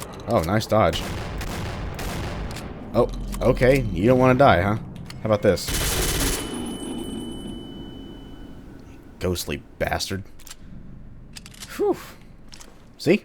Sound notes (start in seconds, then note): 1.0 boom; 5.6 Ingram firing